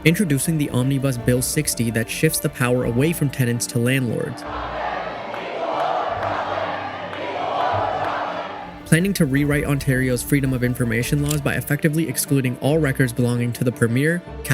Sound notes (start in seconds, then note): 3.9 protestors chanting